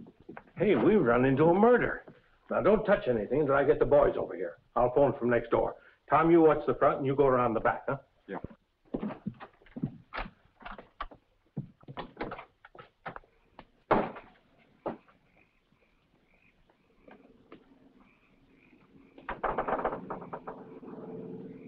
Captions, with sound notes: Hey, we've run into a murder. Now, don't touch anything until I get the boys over here. I'll phone from next door. Tom, you watch the front and you go around the back, huh? - Yeah. (door bangs shut) (knocking on door)